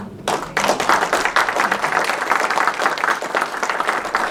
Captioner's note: applause